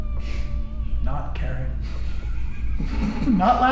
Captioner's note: laughing